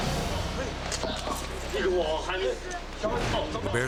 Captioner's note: tense music; tourist speaking in foreign language